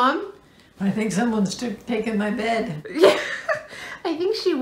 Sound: laughter

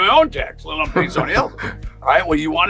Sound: laughs

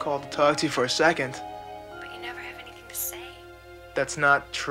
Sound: on phone

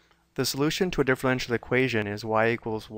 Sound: voiceover

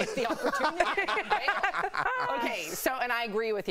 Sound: laughter

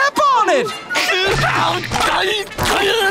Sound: screaming

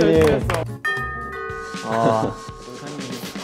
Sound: ding dong ♬

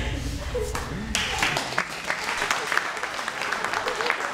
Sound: applause

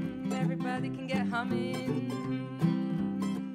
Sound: hums

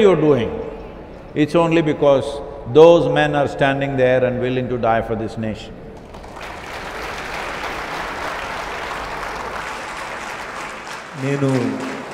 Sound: applause

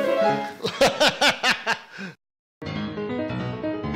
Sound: classical piano music; laughs

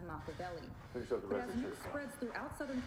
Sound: heavy breathing intensifies

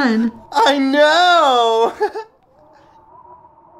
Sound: giggles

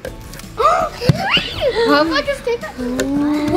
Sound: child gasps

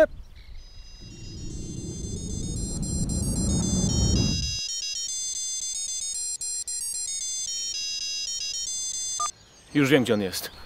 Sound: " " ringtone playing

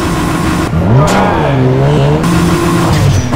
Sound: crraaaassshhhh

